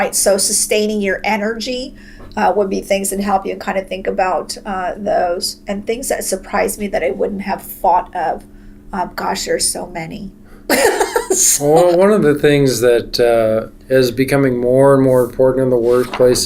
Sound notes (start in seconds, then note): 10.7 laughter